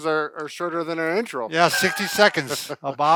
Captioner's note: laughs